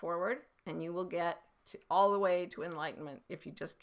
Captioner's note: none